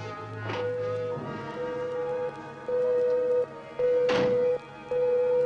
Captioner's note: machine beeping